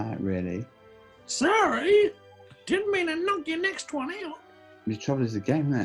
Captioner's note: crow-like voice